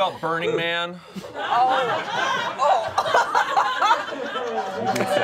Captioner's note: all laughing